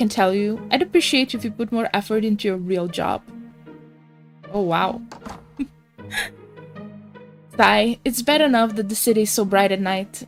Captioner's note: sigh